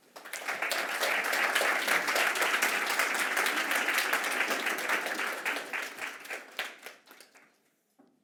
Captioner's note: applause